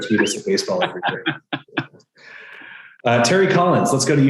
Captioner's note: loudly laughs